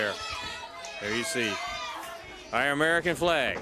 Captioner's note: crowd chatter